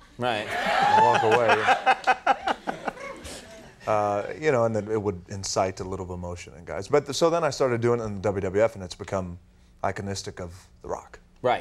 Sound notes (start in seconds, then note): 0.6 Conan laughing